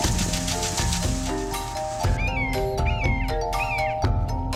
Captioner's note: birds calling